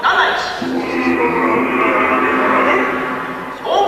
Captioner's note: low, agressive chants